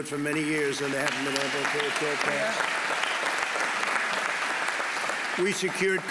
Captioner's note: applause